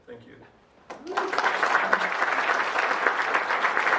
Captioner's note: applause